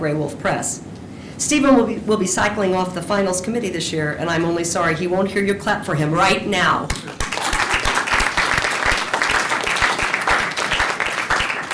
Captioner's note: applause